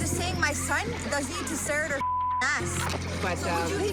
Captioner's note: beep